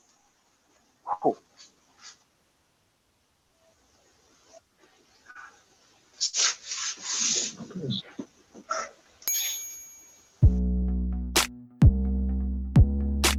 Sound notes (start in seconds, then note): 9.2 ding!